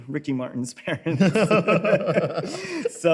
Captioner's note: laughs